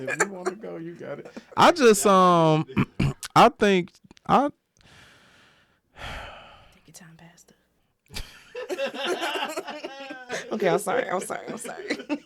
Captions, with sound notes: If you wanna go, you got it. I just, um, I think, I-- (Sighing) Take your time, man. (Laughing) Okay, I'm sorry, I'm sorry, I'm sorry.